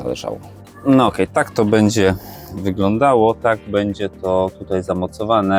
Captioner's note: snort